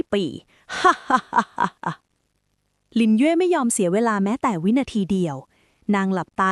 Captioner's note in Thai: เสียงหัวเราะ